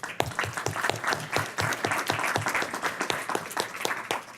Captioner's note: applause